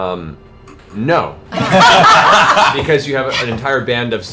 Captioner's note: laughter